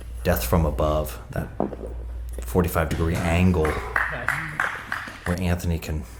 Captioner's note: applauding